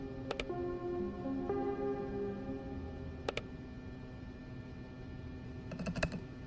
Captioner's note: mouse clicking; typing